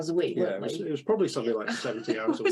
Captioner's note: laughs